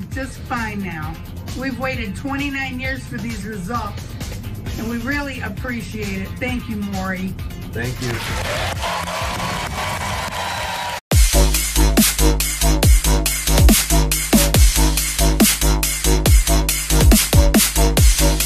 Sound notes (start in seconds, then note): 10.2 applause